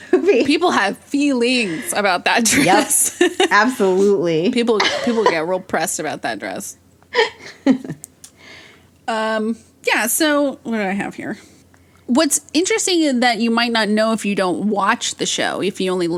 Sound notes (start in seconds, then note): 7.1 both laugh